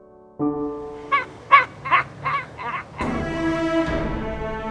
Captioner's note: supernatural sounds; ending music